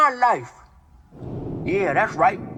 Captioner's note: thunder